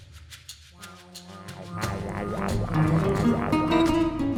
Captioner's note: laser beamy noisese